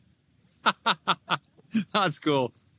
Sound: laughing

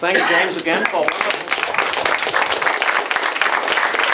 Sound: applause

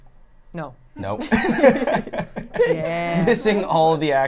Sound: laughs

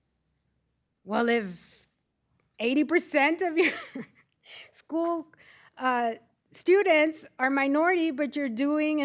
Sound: laughter

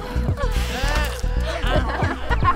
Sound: teeth sinking into flesh

